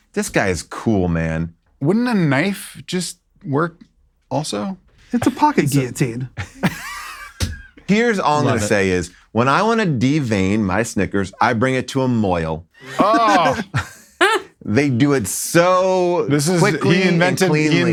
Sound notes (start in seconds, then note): 7.0 laughs; 13.5 crew laughing